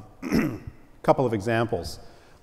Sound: cough

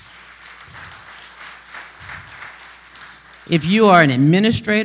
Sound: applause

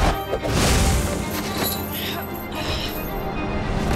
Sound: grunting

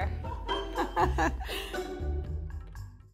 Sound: laughing

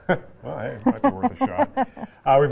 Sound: laughter

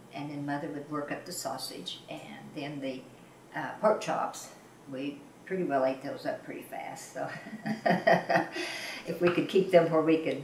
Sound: laughs

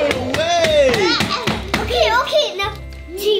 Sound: toys bang into table

